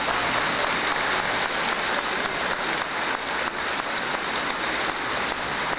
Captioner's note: audience applauding